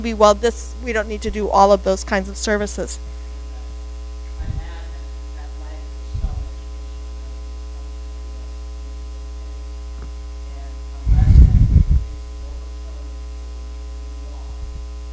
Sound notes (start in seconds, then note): 3.8 speaking faintly